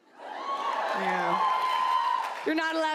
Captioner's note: audience whoop